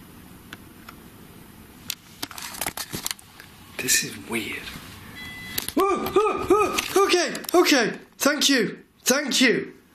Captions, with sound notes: This is weird. (metre beeps) Oh, oh, oh, okay, okay, thank you, thank you.